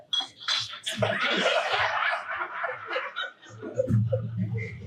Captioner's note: audience laughing